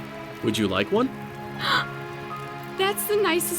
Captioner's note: gasps